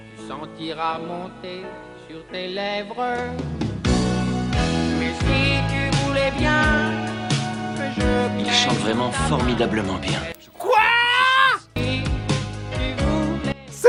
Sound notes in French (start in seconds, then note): 0.1 voix nasillarde horrible; 0.9 Musique sirupeuse aux claviers; 5.0 voix nasillarde horrible; 6.3 Musique sirupeuse aux claviers; 9.5 Musique sirupeuse aux claviers; 10.5 criant; 11.7 Musique sirupeuse aux claviers